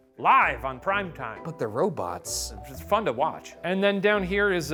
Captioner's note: none